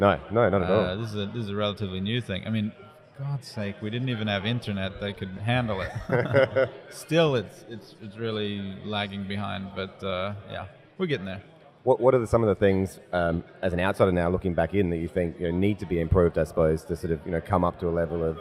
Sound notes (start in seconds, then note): 5.8 laughs